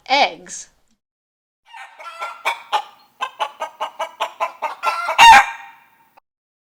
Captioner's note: cluck! Cluck! Cluck!